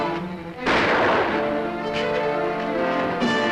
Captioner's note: gunshot